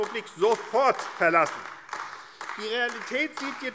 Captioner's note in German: Beifall AfD